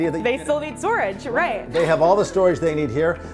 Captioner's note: chuckles softly